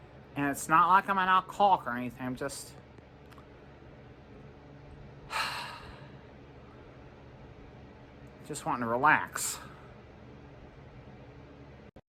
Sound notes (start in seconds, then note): 5.2 sighs